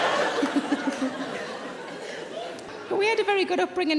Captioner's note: audience laughing; Sarah laughing